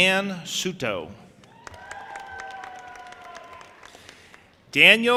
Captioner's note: audience applauding and cheering